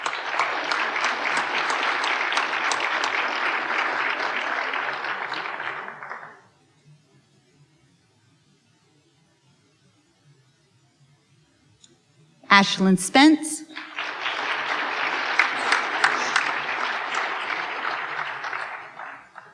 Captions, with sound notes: (applause) Ashlyn Spence. (applause)